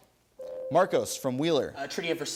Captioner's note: ding